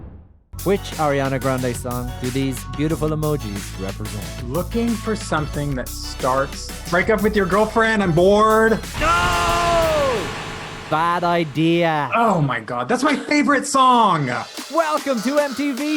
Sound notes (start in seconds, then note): 7.3 yelling